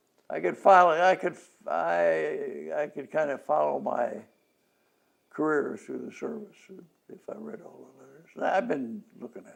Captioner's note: laughs